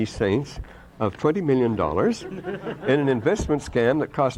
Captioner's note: laughter